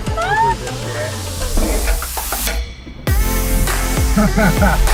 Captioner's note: deep bass electronic music; screams; laughs; deep bass electronic music